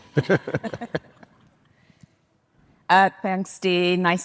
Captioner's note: group laughing